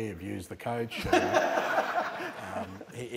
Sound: laughter

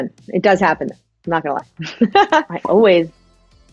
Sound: laughs

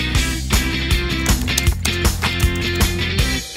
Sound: keyboard typing

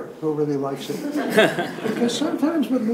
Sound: participants laugh

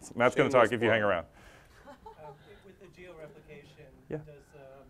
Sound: laugh

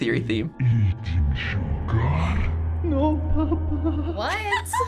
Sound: deep voice

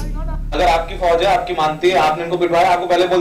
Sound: non-english speech

